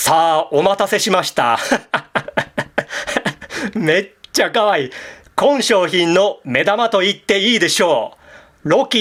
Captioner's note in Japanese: 笑い